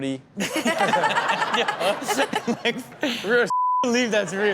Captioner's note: all laughing